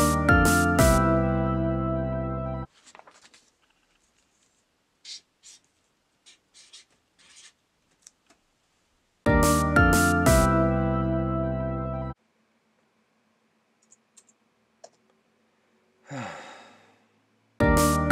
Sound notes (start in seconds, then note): 0.0 upbeat music plays; 6.2 Maker screeches on paper; 9.2 upbeat music plays; 13.8 keyboard clicks; 16.0 sighs; 17.6 upbeat music plays